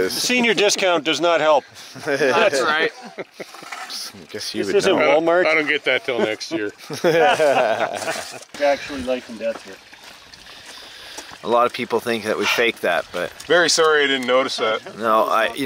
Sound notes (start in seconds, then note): 1.9 laughs; 6.0 everyone laughs